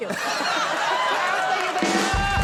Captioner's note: laughing